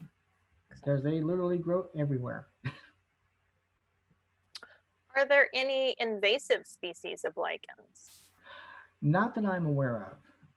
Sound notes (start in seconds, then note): 2.6 chuckles